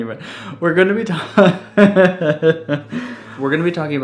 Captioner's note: laughing